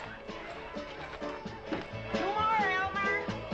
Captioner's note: people chattering